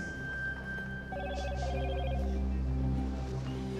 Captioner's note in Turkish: Telefon zili sesi